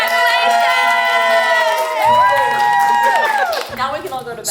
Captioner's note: crowd cheers